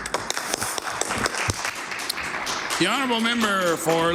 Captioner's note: some Applause